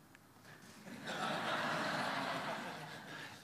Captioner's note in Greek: Γέλια